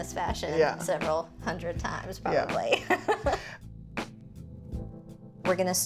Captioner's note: chuckles